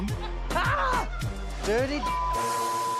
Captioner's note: yells